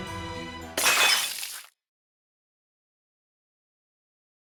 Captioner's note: crash!